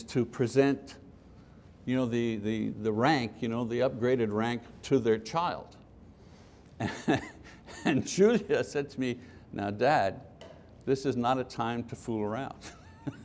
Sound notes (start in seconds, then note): 6.8 laughing; 12.6 laughter